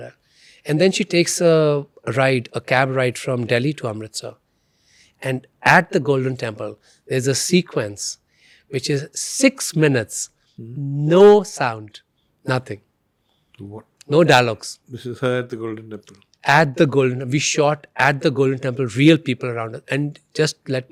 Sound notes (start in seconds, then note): none